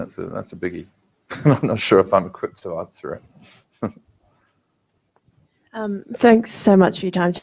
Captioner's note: laugh